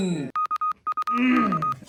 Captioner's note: whisper